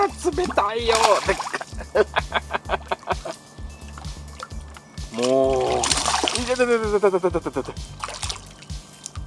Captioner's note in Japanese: 笑い